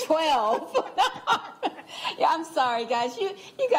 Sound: laughter

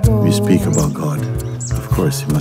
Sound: none

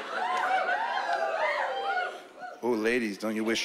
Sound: whooping

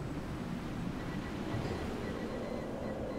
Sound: morse Code heard in the distance

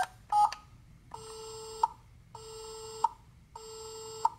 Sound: beeping; dial tone

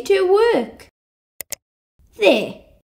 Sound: click!

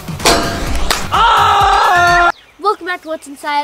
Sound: screams

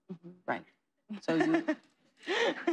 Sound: chuckles

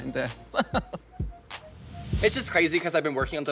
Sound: Miss Fame laughing

